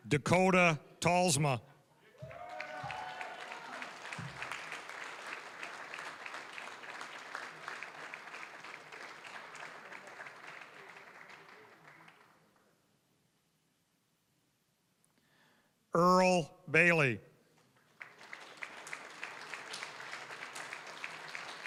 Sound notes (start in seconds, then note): 2.1 applause, cheering; 7.4 applause; 17.6 applause